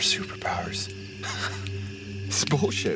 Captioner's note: Penn Laughing